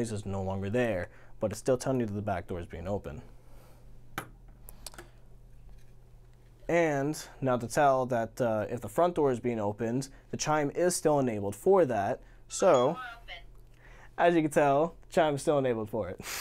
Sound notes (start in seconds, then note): 12.7 chime